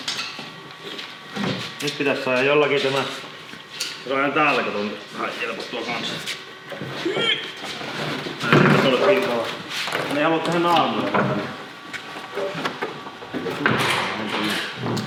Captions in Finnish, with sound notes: Nyt pitäis saada jollakin tämä. Täällä kato vähän jelpattua kanssa. [ähinää] Mä en halua tehdä naarmuja.